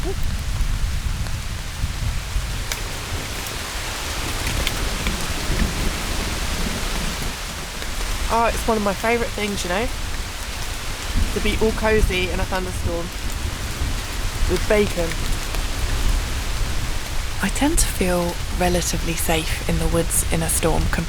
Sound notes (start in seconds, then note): 0.0 thunder rumbling; 3.5 rain